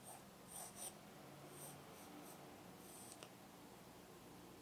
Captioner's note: pencil scratches